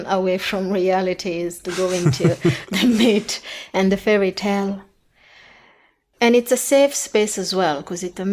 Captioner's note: they laugh